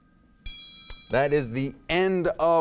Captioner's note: bell dinging